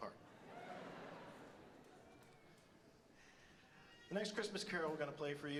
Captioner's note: audience laughs